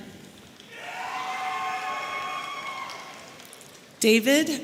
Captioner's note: audience cheering